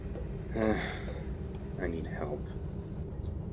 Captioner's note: sigh